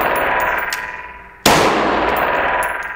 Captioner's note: pew